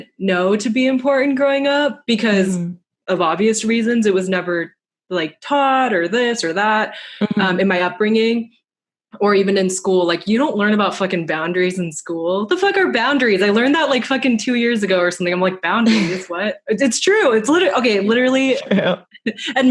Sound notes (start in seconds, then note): 15.8 laughs